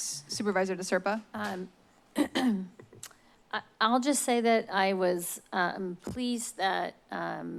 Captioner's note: clears throat